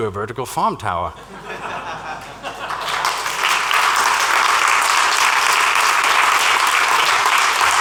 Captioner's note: laughter and applause